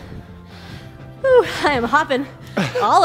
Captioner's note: breathes heavily